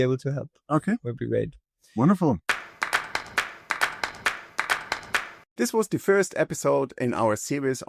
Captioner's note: clapping